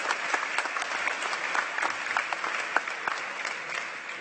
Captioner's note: applause